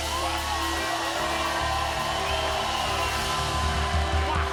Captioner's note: cheers and applause